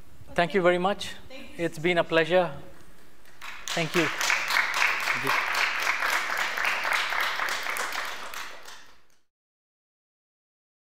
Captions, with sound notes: Thank you very much. It's been a pleasure. Thank you. [APPLAUSE]